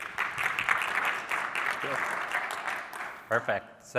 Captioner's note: applause